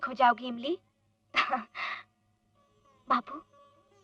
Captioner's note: chuckles